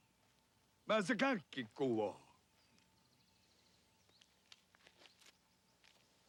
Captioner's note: Tukenbheska speaks Indigenous language